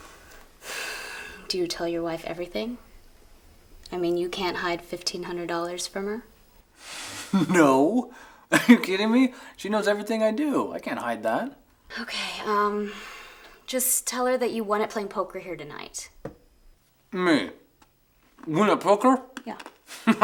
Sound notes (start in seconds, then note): 6.7 laughing